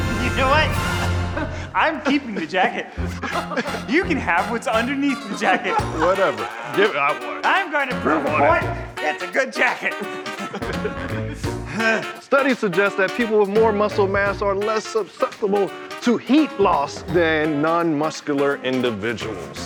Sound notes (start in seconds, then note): 9.9 chuckling